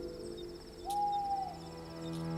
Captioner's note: owl hoots